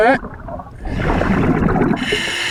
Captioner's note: water burbling; regulator hissing